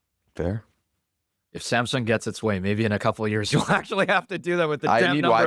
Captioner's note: laughs